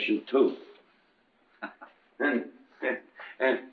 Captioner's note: lieutenant chuckles